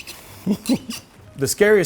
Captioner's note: chuckles